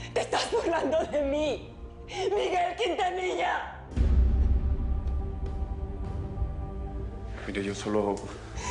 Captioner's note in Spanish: Sollozando